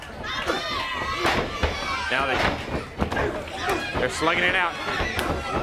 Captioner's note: crowd chatter